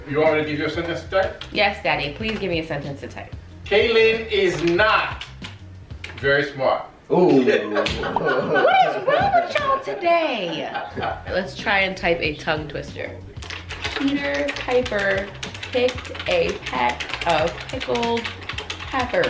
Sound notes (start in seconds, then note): 7.6 everyone laughs